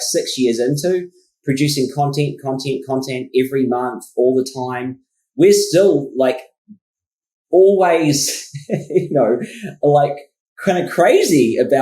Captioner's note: laughs